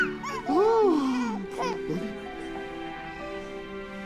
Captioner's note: cries; gasps